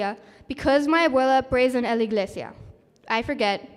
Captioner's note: speaking spanish